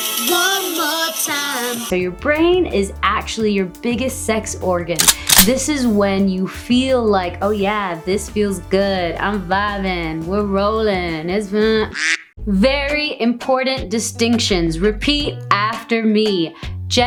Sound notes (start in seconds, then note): 5.0 gun cocking; 11.9 duck quacking